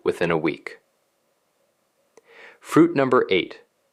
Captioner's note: pause